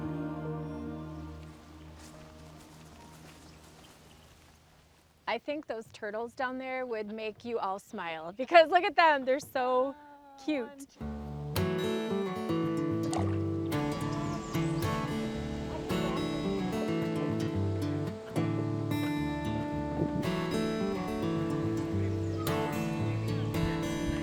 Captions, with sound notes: (warm instrumental music) (birds chirping) I think those turtles down there would make you all smile because look at them. They're so cute. - Oh. (warm guitar music) (water splashes) (group chattering indistinctly)